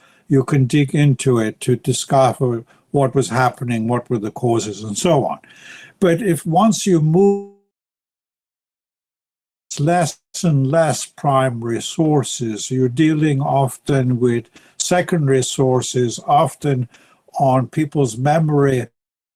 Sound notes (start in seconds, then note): 7.6 audio cuts out